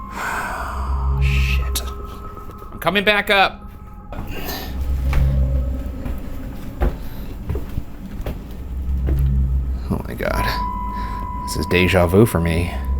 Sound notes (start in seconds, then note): 0.0 sighing; 5.1 eerie pensive music; 5.1 footsteps ascending